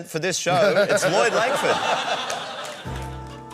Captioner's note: laughter